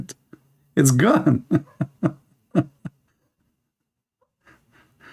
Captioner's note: Ketawa